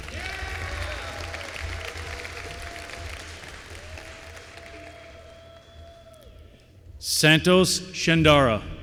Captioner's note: applause